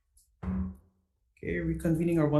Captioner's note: gavel thuds